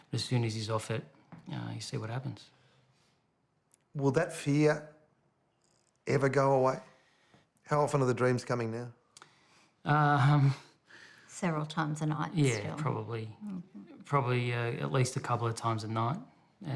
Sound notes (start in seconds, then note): none